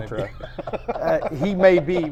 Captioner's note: laughs